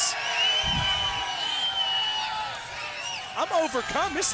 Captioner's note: crowd cheering